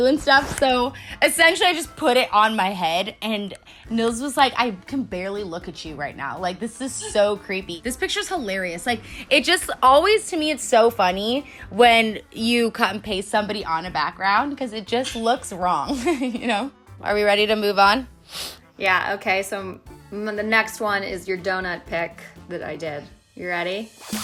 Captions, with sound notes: and stuff, so essentially I just put it on my head and Nils was like I can barely look at you right now like this is so creepy. This picture's hilarious, it just always to me it's so funny when you cut and paste somebody on a background 'cause it just looks wrong (chuckles) you know. Are we ready to move on? - Yeah, okay. So, the next one's your donut pic that I did, you ready?